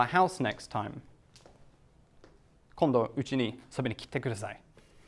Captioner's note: speaking Japanese